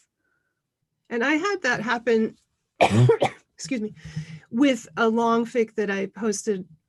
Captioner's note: coughing